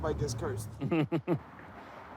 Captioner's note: chuckles